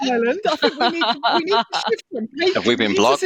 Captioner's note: laughter